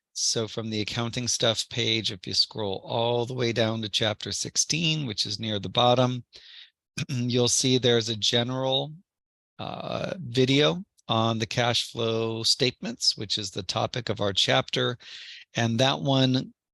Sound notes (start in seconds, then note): 7.7 cough